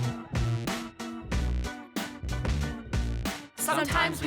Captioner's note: crowd chants